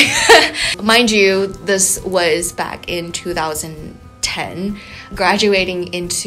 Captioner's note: laughs